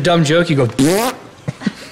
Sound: raspberry Noise

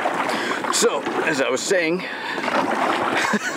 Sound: laughs

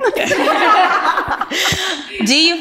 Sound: ladies laugh

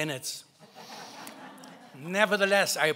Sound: laughing

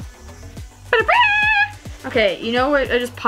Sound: vocalizes

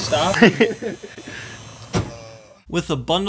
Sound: laughter

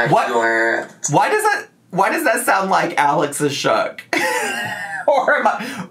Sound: laughs

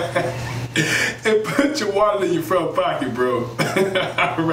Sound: chuckles; chuckles

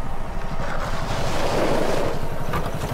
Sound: brakes squeal

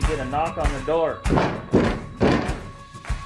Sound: stomping

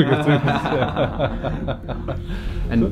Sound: laughing

